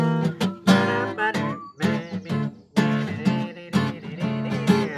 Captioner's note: humming